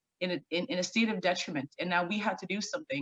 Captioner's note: stammering